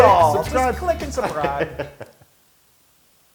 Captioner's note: laugh